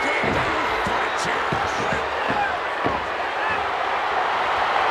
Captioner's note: crowd booing